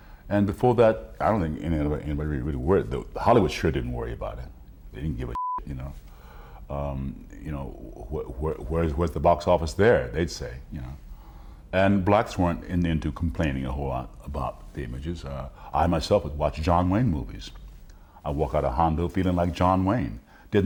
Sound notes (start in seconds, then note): 5.3 beep